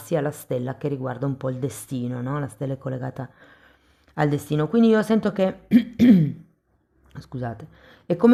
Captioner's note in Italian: schiarire la voce